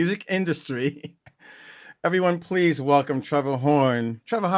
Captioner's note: laughter